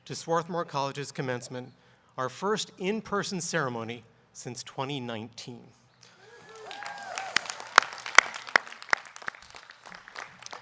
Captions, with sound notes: to Swarthmore College's commencement, our first in person ceremony since 2019. (audience clapping)